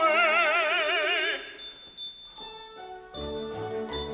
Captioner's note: dinging